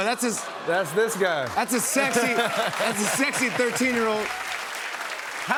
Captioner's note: cheers and applause